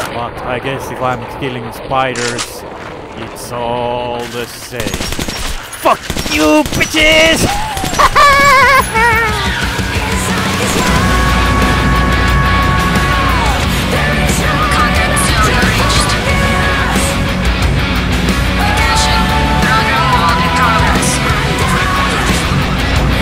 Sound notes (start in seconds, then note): 7.5 laughs